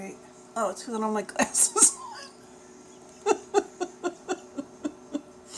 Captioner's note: laughs; laughs